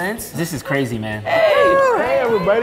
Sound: everyone greeting

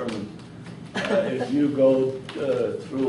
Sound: laughs

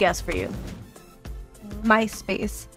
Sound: screen whooshing

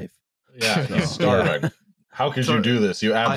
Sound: laughter

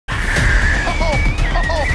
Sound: screams

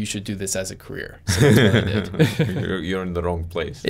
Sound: both chuckling

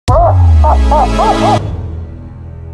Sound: Pyro laughing

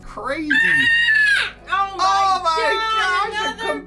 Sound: squeals

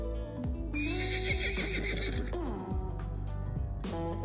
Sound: horse neighing

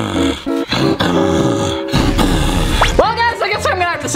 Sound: lion roar

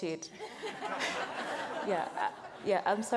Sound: audience laughs

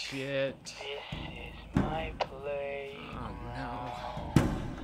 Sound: on radio/sings

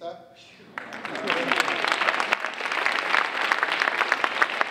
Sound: audience applauding

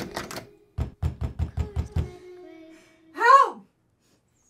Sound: Nova knocking

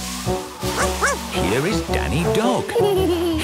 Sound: barking; laughing

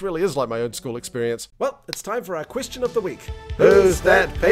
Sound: clap

